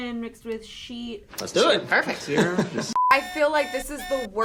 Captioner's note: beep